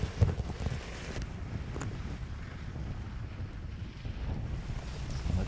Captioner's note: car tires crunching